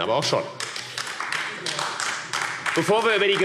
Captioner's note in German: Beifall AfD